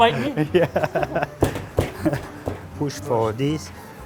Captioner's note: laughing